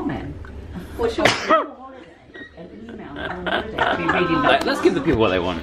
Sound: sneezes loudly. They laugh

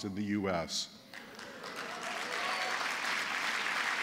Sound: applause

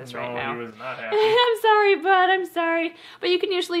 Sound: laughs

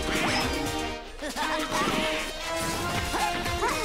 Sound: laughing

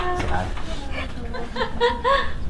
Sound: laughing

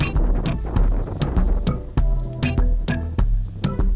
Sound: wind blowing

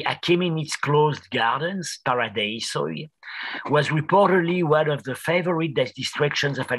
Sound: non-english

